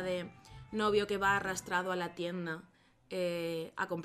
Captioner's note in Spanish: none